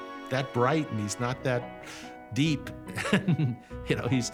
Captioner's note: chuckles